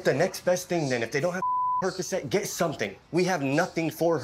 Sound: beep

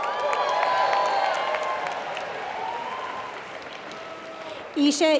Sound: applause

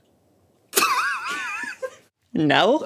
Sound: laughs

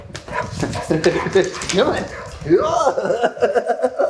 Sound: laughter

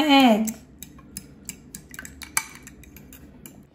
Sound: whisking

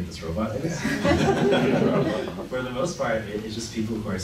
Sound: laughing

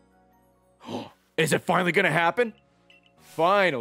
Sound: gasps

